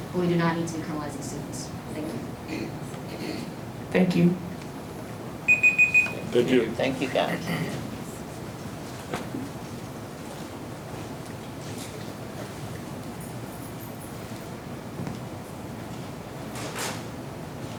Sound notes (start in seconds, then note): 5.4 alarm Beeps